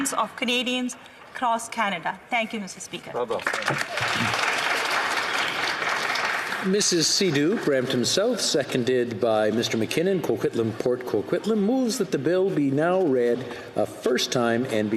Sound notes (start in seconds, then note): 8.3 some applause